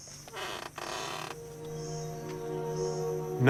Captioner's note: door creaking